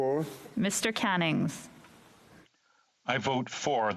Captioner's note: speaking French